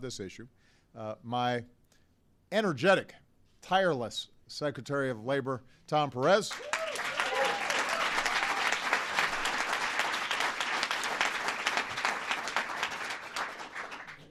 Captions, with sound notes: I want to thank some other people who care passionately about this issue: My energetic, tireless Secretary of Labor, Tom Perez. (Applause.) A couple of outstanding Senators, Cory Booker